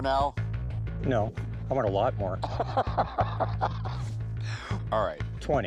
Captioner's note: laughs